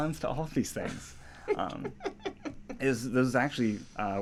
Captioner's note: laughs